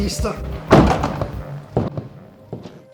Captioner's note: door opens